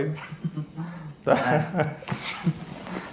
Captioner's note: laughing